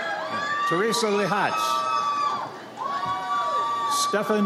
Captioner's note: audience cheers